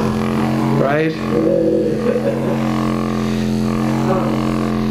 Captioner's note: machine vibrating